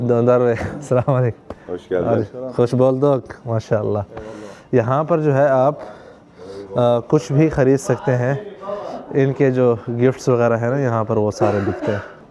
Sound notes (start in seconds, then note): 2.4 Turkish